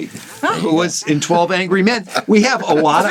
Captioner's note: laughs